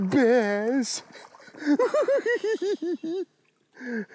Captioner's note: laughing